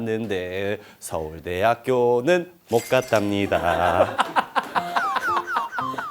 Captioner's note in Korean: 웃음